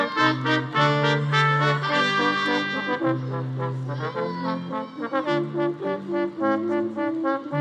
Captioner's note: attendees cheering and speaking faintly; upbeat classical music